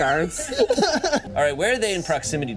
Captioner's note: teammates laughing